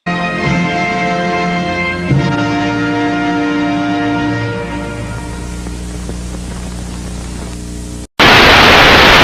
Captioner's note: TV Static Sound